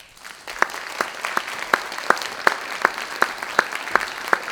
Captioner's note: audience applauds